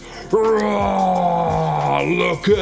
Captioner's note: growling